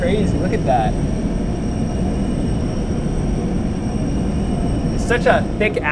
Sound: acceleration continues

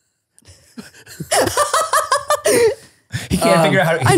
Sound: laughs

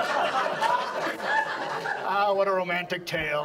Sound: audience laughs

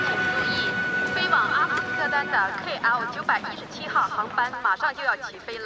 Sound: announcer on speaker speaking foreign language

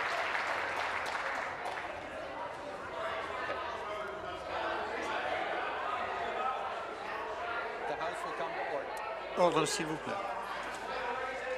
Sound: some Applause

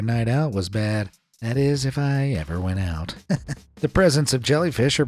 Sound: chuckles

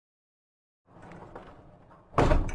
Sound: heavy object rolling; bang

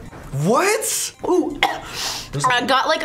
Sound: coughs

